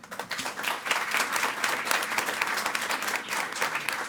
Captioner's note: audience applauding